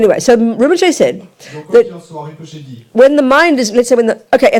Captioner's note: audience member speaks in French